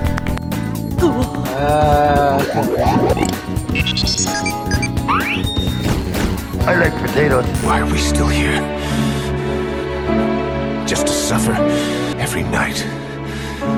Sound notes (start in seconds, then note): 3.1 burp; 4.1 Tamagotchi SFX